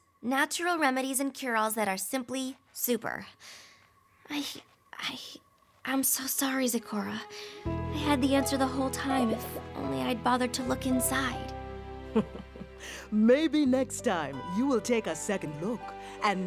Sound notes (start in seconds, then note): 12.0 laughs